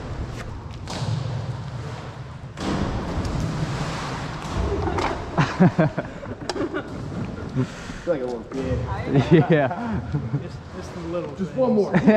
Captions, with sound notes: (laughter) i feel like a little kid i know yeah it's the little things